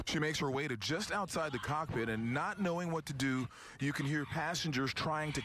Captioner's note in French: yelling